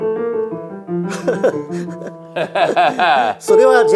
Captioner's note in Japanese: 笑い